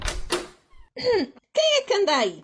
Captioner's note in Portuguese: d.maria das dores aclara a voz